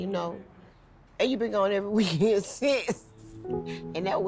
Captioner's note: laughs